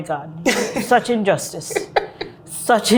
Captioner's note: laughs